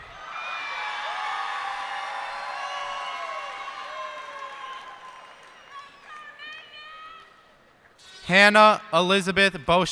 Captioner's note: cheers and applause